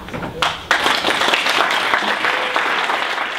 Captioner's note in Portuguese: Aplausos